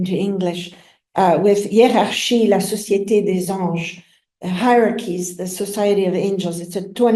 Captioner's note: french